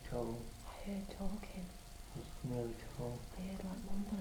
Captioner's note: whispers